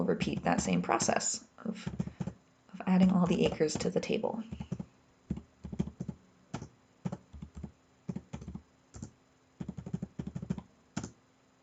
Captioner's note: typing sounds